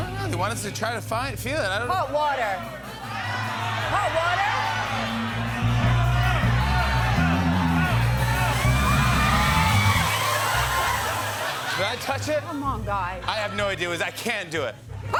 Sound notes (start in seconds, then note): 4.4 shouting; 10.8 laughter